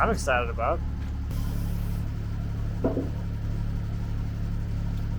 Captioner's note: motor humming